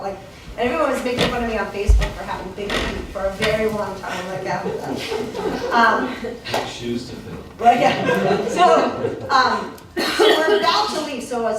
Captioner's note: laughter